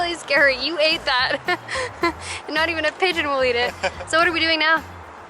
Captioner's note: laughter